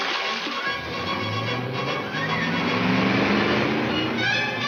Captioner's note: car engine revs